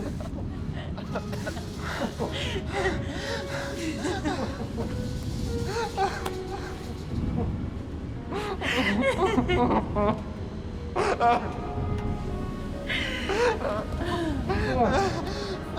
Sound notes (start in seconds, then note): 0.0 laughter; 5.6 crying